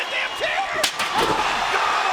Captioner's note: chair thuds